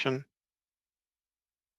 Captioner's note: speaking French